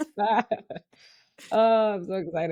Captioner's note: laughing